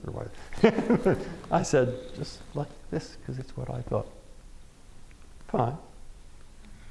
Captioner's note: laughs